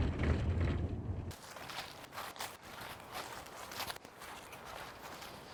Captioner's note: leaves crunching